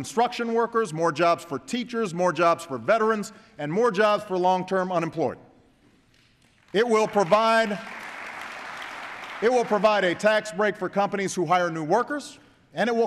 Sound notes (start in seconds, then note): 6.1 applause